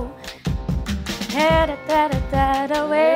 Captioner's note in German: Sie summt